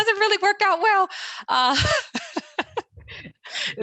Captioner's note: laughter